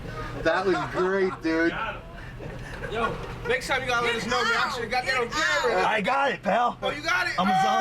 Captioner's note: laughter